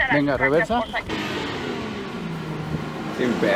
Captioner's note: engine revving